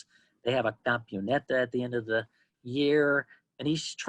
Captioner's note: spanish